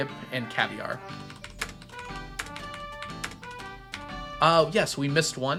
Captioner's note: keyboard clacking